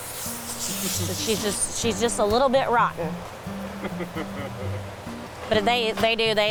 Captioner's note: chuckles